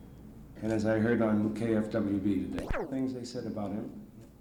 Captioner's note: camera noise